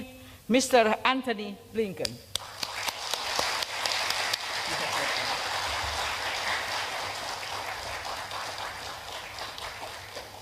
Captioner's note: applause